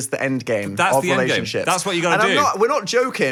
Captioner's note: none